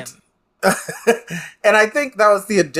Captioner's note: laughs